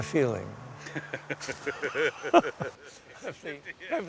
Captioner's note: laughter